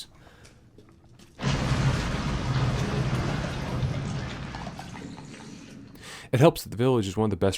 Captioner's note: ominous rumbling